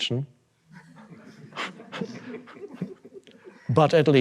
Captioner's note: audience laughing; Eckhart chuckling